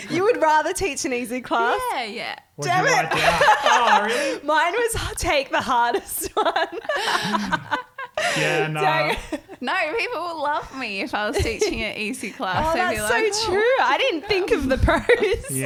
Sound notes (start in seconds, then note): 5.6 laughing